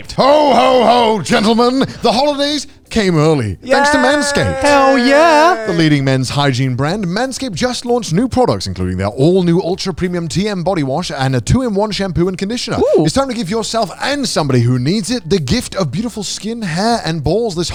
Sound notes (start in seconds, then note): 4.6 mimics a woman's voice